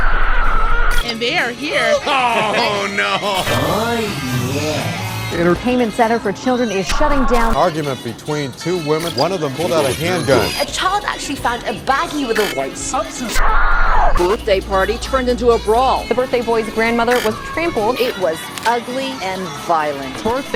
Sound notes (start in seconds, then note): 0.0 screams of agony; 13.6 scream